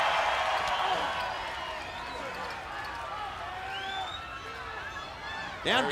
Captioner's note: crowd cheering